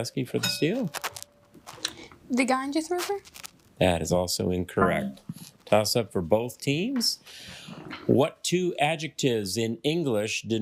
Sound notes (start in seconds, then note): 0.4 bell dings; 0.4 failure chime; 4.9 failure chime